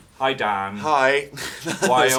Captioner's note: laughs